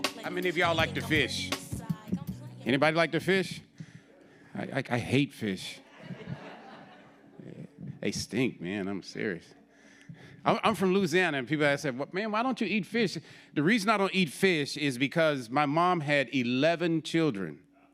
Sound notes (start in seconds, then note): 5.8 audience laughing